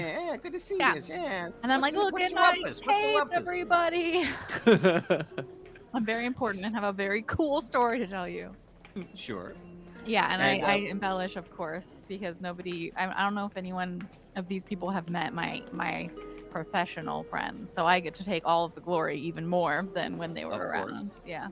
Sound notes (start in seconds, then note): 4.4 Cornette laughs